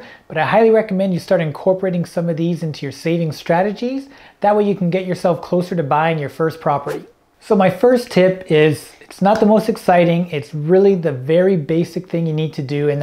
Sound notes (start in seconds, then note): 6.9 air whooshing